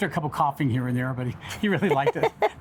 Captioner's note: chuckles